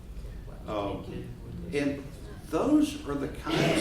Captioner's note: background chattering